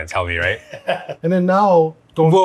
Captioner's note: laughing